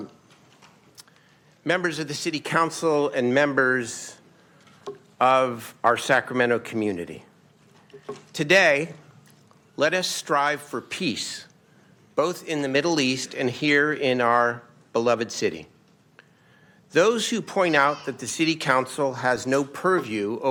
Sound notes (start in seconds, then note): none